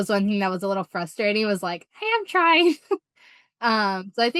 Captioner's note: chuckles